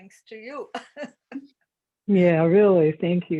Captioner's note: laughs